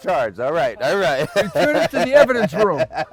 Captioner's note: laughs; Todd laughs